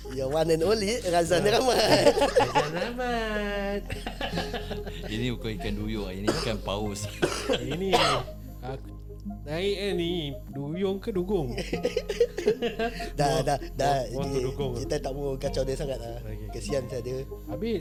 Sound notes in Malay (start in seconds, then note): 3.2 ketawa; 6.2 batuk; 11.4 ketawa